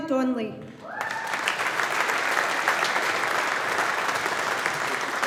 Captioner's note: audience applauding